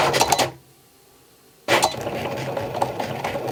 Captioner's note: machine whirs